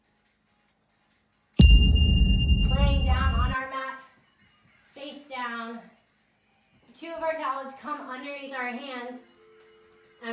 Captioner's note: ding